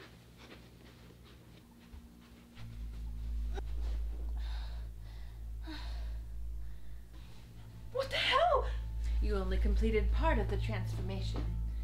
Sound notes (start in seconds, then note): 4.7 gasping for air